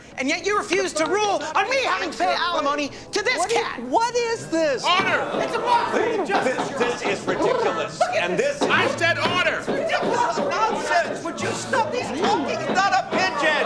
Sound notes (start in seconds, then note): 7.5 charlie cooing; 8.5 banging